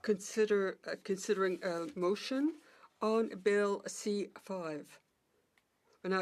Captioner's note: speaking French